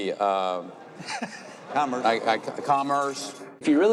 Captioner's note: laughing